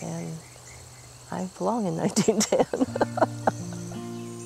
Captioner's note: laughs; gentle music